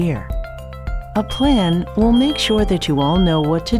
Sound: smoke alarm beeping

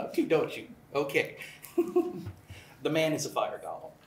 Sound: laughs

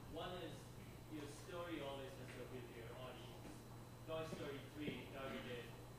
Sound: student speaking faintly

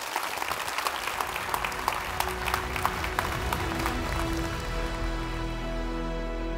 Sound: applause

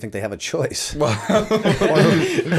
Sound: laughter

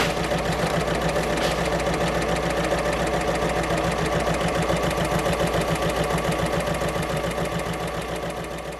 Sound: sewing Machine Sounds

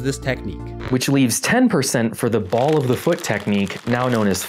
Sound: crinkling chip bag

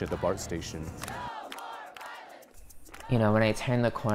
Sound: crowd Chanting

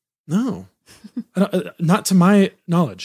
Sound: laughs

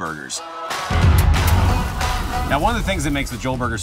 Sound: fire roaring

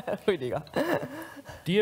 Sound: laughs

